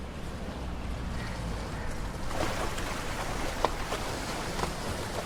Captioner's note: water splashing